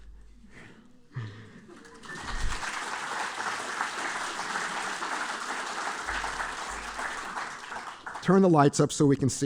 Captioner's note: applause